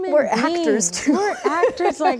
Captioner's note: Rachel laughs